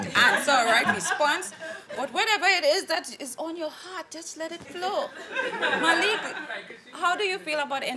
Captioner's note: audience laughing